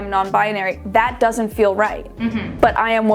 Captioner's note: humming affirmatively